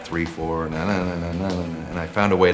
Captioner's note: humming on beat